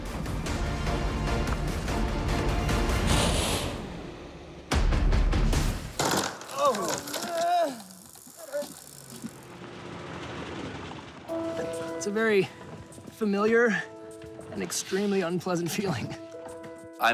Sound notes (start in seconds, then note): 6.4 groans